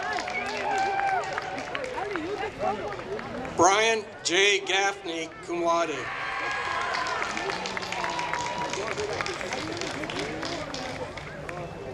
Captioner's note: applause